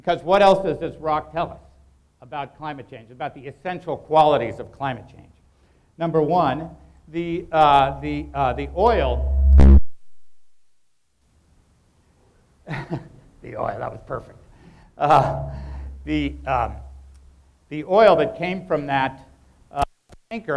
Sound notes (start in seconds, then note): 7.7 microphone buzzes; 10.5 laughs